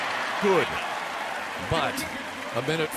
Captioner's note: cheering